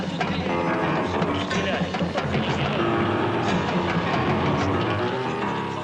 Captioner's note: soldiers speaking in foreign language